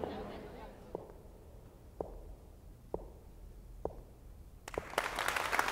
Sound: footsteps; applause

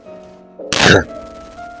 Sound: tshh

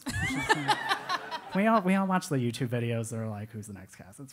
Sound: laugh

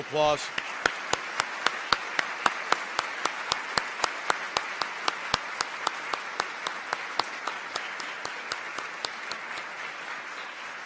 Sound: applause

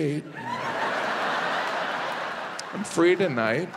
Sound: audience laughing

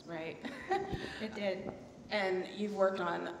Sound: laughs quickly

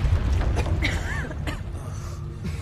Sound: coughing

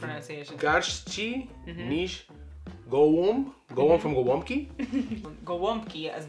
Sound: speaks Polish

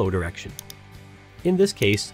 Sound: mouse clicking

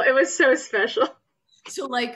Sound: laughs

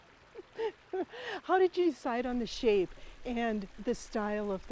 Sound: laughs

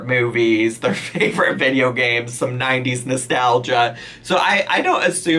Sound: laughs

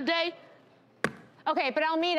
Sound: slaps counter

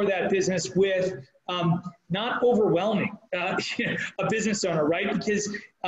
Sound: laughing

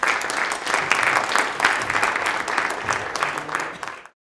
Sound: clapping

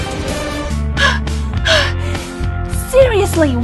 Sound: catching breath

